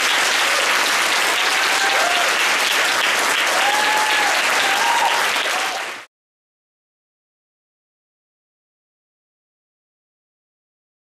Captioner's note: applause